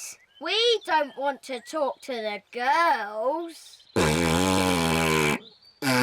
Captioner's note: blows raspberry